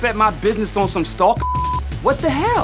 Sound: beep sound

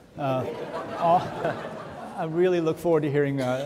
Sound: audience laughing

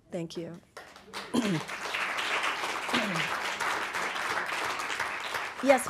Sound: audience applauding

